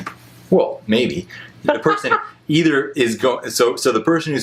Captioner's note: laughs